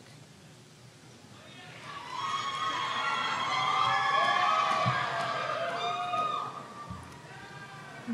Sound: cheers and applause

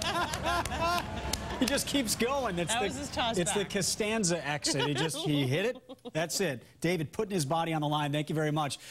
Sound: cheers and applause

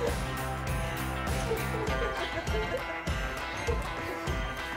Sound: group laughing

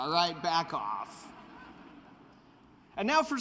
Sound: laughter

